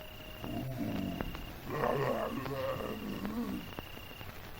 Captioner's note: zombies groaning